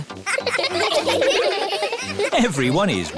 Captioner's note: laughing